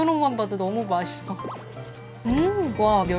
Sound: first sip of the broth slurp

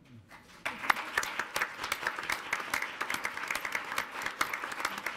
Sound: audience applauds

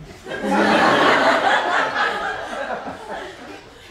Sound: audience laughs

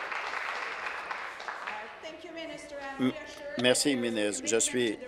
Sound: applause

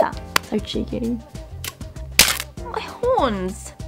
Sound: horns snap

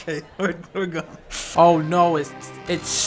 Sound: laughing

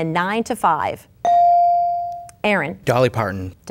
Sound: bell dinging

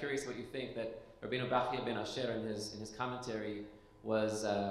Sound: speaking foreign language

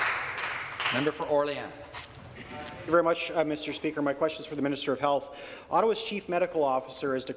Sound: some Applause

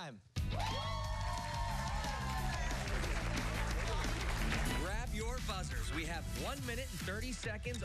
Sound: cheers and applause

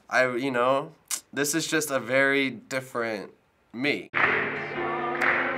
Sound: clicks; singing and clapping

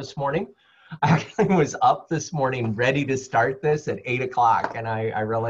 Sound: laugh

